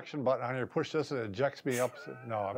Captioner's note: laughs